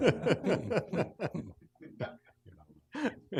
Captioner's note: laughing